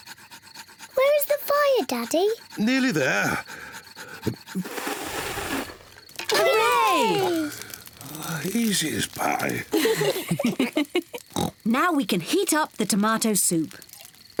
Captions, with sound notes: -Where is the fire, Daddy? -Nearly there. (BLOWS AIR) (ALL CHEER) -Oh, easy as pie. -(ALL LAUGH) (OINKS) Now we can heat up the tomato soup.